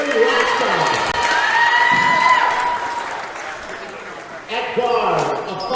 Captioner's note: cheering